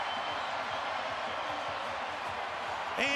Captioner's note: cheers, applause